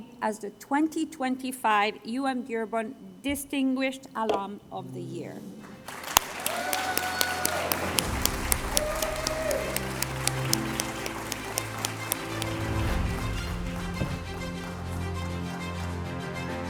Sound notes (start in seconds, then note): 5.8 applause & Cheers